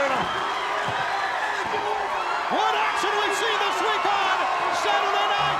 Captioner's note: applause